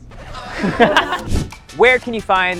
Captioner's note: laughs